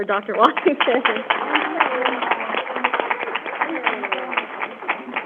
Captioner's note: crowd applauding